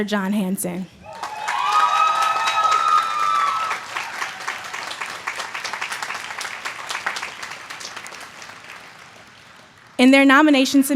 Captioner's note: applause